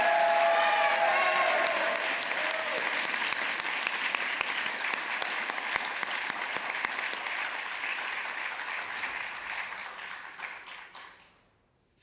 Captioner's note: applause